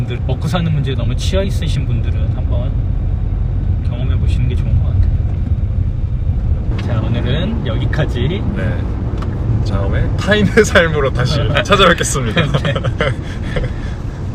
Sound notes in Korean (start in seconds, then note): 12.2 웃음